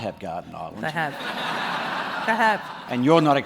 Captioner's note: laughter